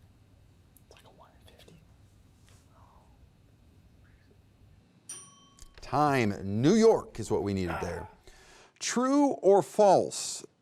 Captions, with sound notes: - (whispers) It's like a one in fifty. (timer dinging) - Time, New York is what we needed there. True or false?